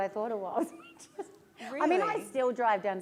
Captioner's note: laughter